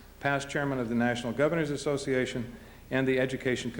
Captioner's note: none